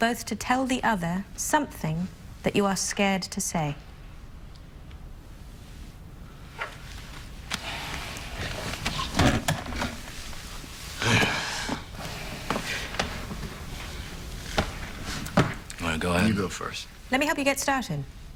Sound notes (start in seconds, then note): 10.9 sighs